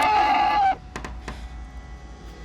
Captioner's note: shrieks